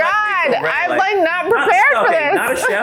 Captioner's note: laughs